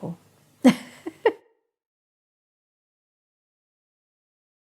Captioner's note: chuckles